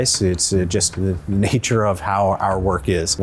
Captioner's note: none